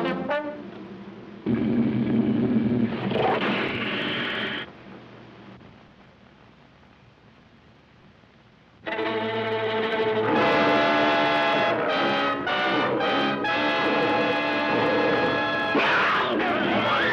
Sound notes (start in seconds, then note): 0.2 music stops; 1.4 growl; 13.5 roar; 15.7 crowd screaming